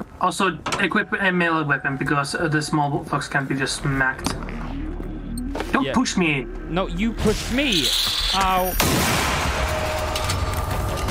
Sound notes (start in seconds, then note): 8.6 bang